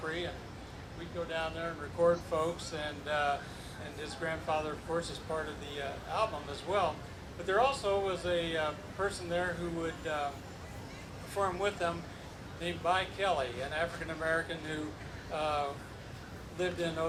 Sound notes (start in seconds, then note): none